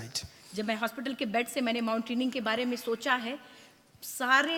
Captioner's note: speaks foreign language